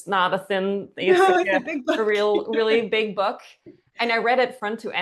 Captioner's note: laughs